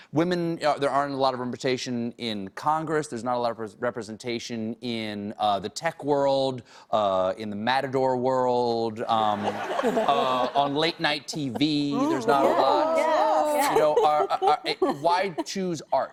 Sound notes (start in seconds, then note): 9.2 laughter